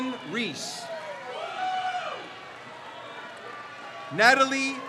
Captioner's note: crowd cheers